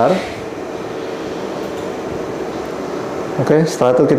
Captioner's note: clicking sound